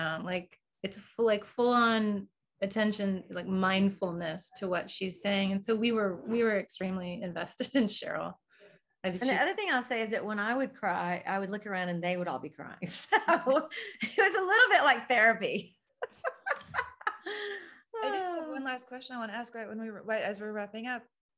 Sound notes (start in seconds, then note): 16.0 laughs